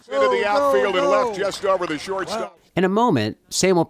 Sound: background Discussion

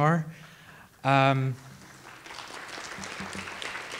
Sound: audience applauding

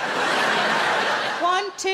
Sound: crowd laugh

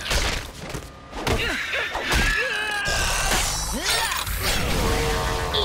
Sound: grunting

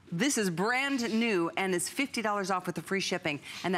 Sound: none

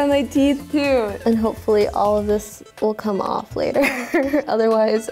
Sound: laughs

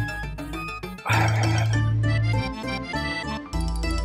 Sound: exhales

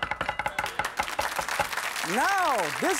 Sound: audience clapping

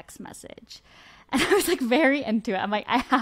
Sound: laughs

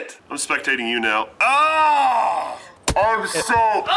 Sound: yells

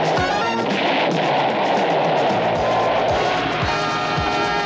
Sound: explosion

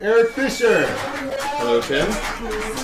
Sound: scattered, unenthused applause

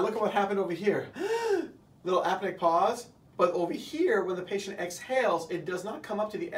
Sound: breathes in

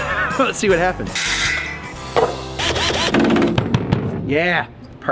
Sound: laughs; power tools buzzing

